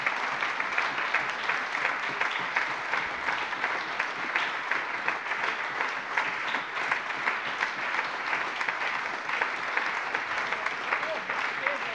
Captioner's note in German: Allgemeiner Beifall